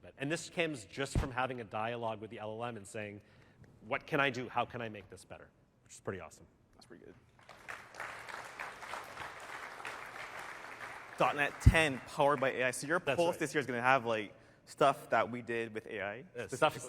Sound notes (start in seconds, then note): 11.1 applause